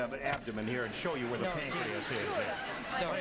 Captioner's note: chattering